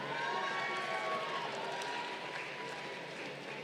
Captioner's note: crowd cheering